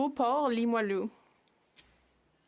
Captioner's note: speaking French